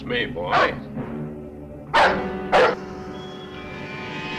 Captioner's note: dog barking; suspenseful music